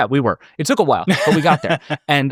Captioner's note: laughing